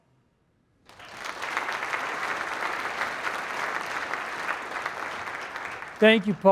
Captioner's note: applause